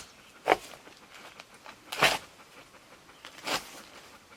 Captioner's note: digging